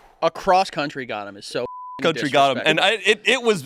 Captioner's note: beep